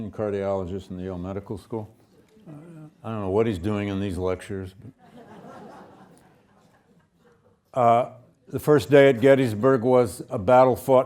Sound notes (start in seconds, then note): 5.0 students laughing